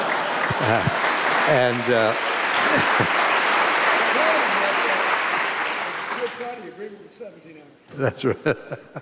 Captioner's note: laughter and applause